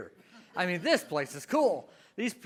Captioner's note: audience laughs